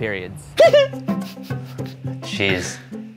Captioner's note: laughing